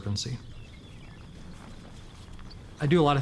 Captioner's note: birds chirping